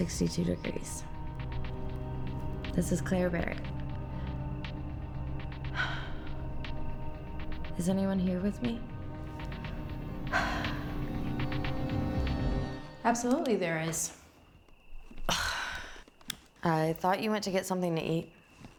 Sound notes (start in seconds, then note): 5.6 sighs; 10.2 Claire sighs; 15.6 scoffs